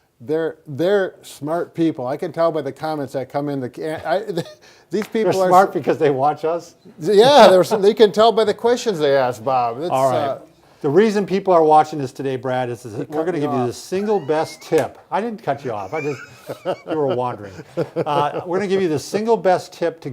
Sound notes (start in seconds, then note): 4.3 chuckling; 7.2 laughing; 13.0 laughing; 15.6 both laughing